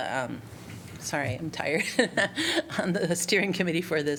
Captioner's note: laughter